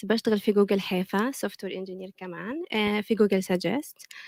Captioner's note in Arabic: لغة أجنبية